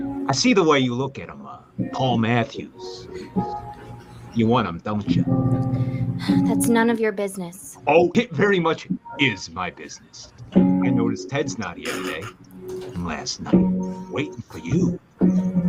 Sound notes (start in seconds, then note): 6.4 sighs